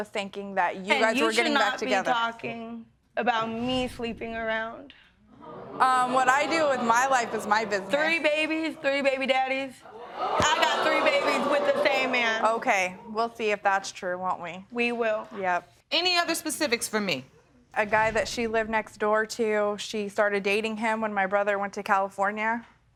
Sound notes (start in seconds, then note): 2.9 audience gasp; 9.9 audience react